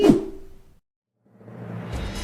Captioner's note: whoosh sound effect